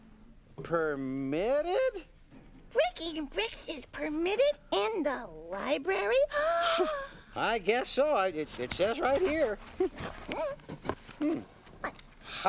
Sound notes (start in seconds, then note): 5.5 gasps